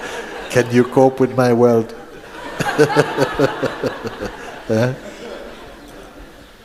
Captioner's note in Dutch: gelach